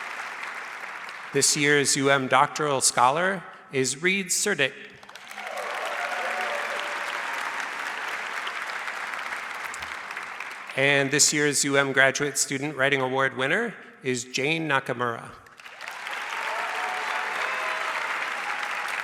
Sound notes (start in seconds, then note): 5.0 audience cheers and applauds; 15.5 audience applauds